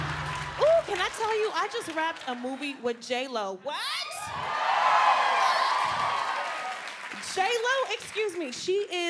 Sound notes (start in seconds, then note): 0.0 audience claps; 3.8 audience cheers